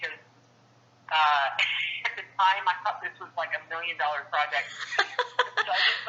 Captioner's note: laughter